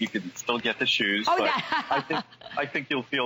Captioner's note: laughter